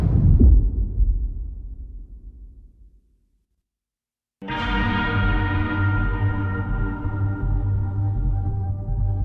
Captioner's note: dramatic sound